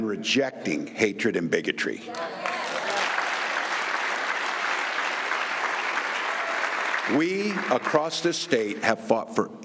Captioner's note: applause